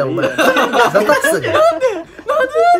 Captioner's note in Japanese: 高い声で